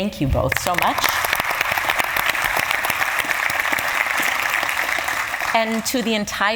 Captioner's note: applause